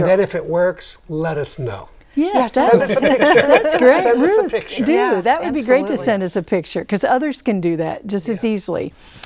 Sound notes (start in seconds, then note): 2.6 laughing